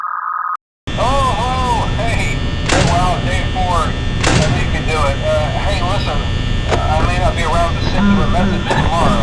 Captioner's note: phone Call…